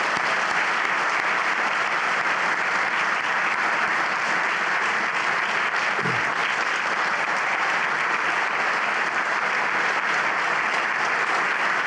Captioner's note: applause